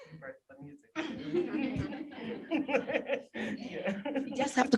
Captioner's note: laughter